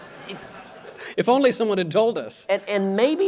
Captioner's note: audience laughter